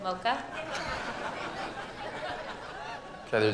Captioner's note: laughter